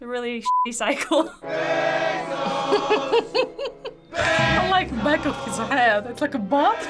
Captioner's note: laughs; chuckles; people yelling